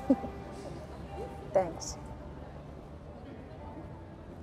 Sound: laughing

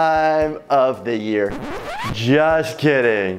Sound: record scratch

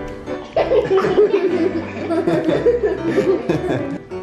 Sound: kids giggling

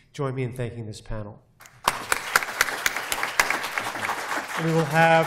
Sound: applause

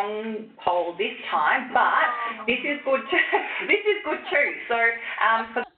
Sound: laughs

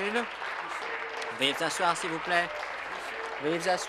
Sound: applause

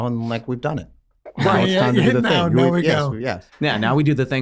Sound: men chattering

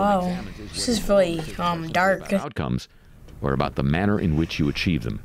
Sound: voice-over

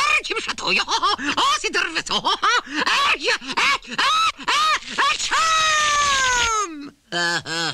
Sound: sneezes; chuckles

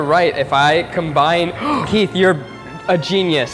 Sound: gasping

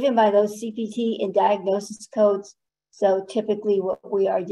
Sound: none

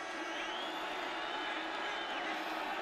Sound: crowd cheering

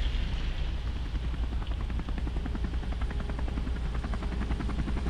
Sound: helicopter

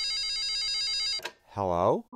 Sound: phone ringing

